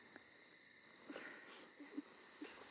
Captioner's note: both chuckling